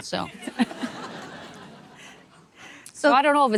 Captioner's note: audience laughing